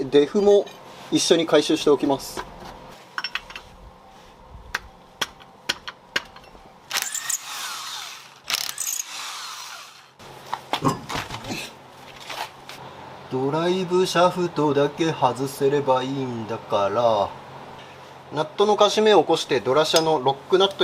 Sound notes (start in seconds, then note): 3.2 working sound